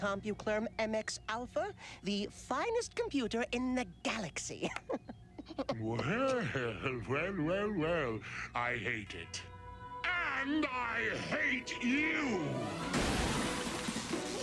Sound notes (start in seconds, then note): 5.4 coughs